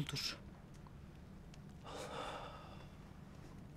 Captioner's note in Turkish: Nefes sesi